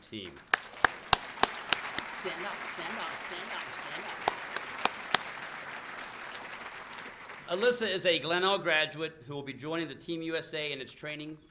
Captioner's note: applause